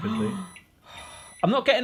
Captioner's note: microwave beeping